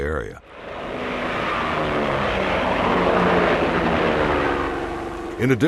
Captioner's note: planes roaring